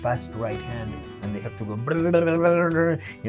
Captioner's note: imitates chords strumming